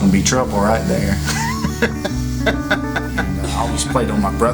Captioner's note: laughs